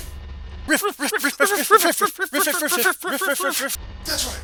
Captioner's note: yapping like excited dogs